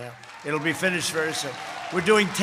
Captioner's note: applause